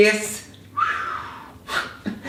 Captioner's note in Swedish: visslar